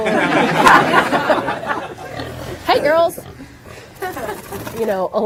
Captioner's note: laughter